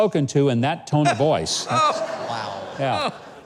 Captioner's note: audience laughing